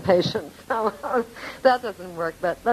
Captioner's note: laughing